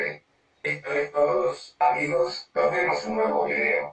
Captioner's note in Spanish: Voz Robotico